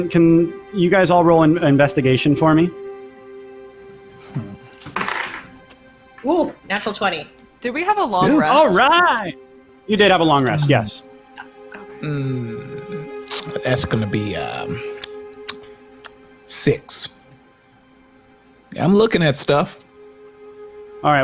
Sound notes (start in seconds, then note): 4.9 dice clatters; 15.8 smacking